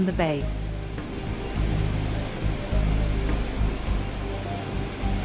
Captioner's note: waterfall sound